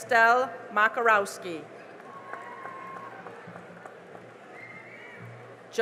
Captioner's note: cheering and applause